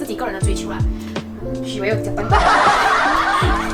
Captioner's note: fake aahahhahah